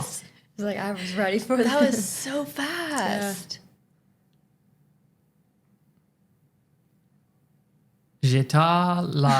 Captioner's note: French language